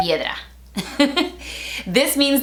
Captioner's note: laughing